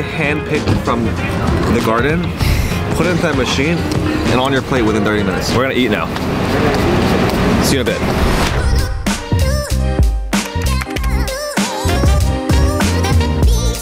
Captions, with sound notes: handpicked from the garden, put it into that machine and on your plate within 30 minutes. - We're going to eat now, see you in a bit. (swoosh) (keyboard clacking)